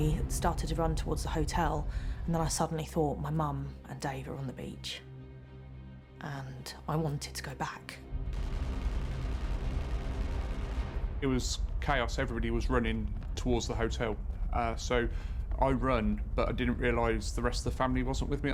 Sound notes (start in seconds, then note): 8.3 distant gun fires rapidly